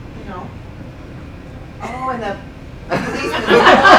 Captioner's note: laughing